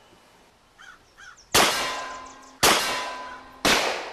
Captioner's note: tin dings; gunshots blasting